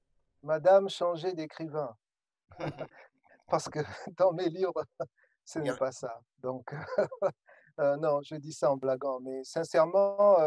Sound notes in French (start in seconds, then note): 2.6 rires